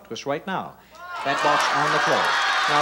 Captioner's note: shouting